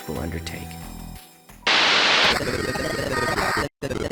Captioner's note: glitching Sound Effects